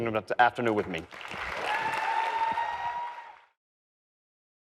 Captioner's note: audience cheers